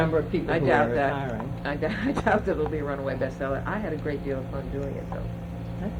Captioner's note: laughs